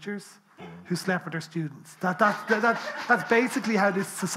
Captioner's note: people laughing